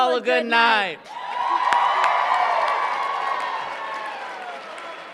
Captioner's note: applause